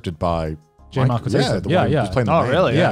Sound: murmurs

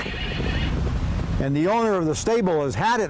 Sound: horses neigh

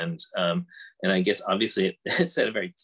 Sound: laughs

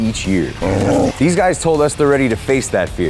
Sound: dog growling

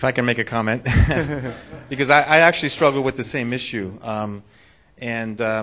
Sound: laughs

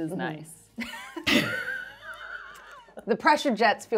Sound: laughing

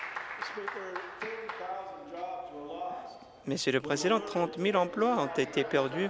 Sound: applause

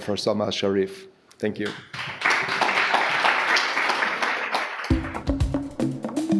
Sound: audience applauding; light bongo music

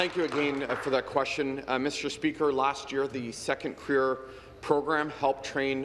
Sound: applause

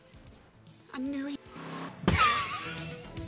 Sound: laughs

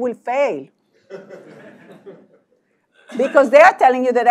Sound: laugh

